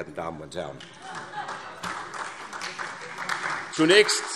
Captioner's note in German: Vereinzelter Beifall SPD